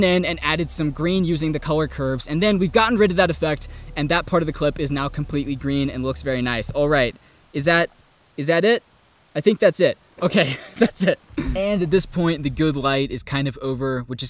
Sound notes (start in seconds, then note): 10.2 laughs